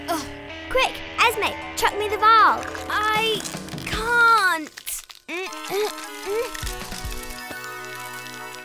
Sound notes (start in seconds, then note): 5.2 groaning